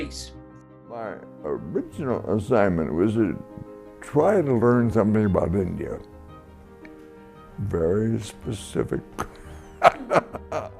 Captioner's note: laughs